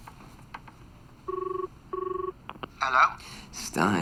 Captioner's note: phone rings